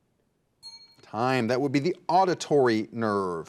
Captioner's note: bell dings